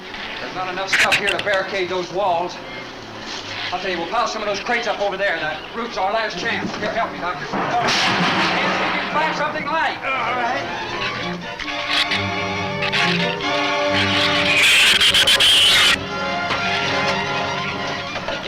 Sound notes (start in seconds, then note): 0.0 shrews chatter; 9.5 groans; 11.8 shrews chatter; 14.6 shrews screech